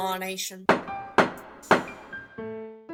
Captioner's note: gavel slams thrice